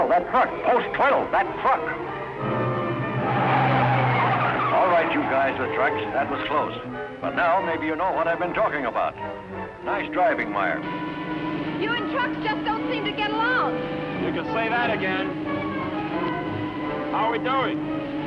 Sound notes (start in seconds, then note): 3.5 tires screeching